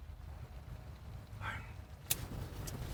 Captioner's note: sighs